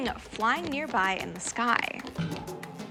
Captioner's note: footsteps